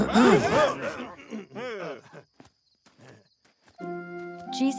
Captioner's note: clears throat; startled noises